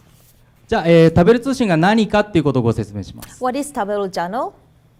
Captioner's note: speaking foreign language